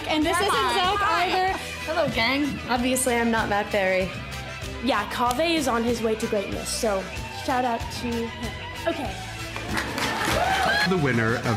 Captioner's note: roaring